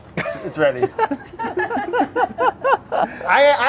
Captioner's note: laughing